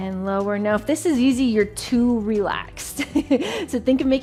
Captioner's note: chuckles